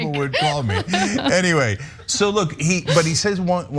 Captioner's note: laugh